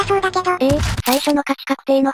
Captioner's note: confused